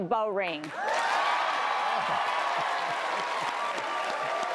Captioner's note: cheers and applause